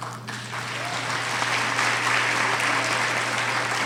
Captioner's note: applauding